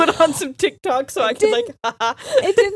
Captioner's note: giggling